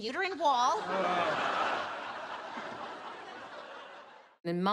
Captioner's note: men groan, audience laughter